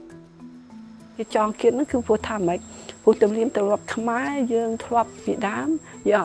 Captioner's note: speaking foreign language